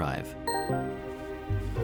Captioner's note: computer alert